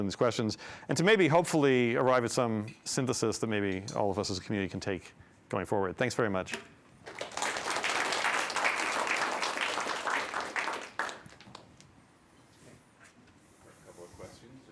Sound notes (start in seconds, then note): 7.0 applause